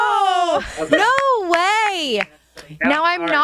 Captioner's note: hands clapping